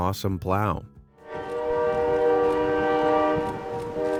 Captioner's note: plow honking